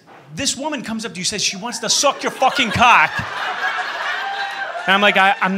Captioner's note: laughter